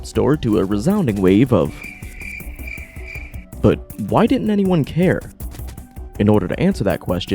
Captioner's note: chirp chirp